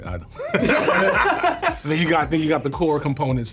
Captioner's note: everyone laughing